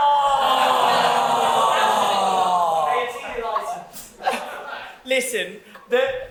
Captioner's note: cue dramatic sobbing and sarcastic audience aww's